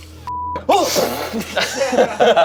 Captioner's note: group laughs; flamethrower blows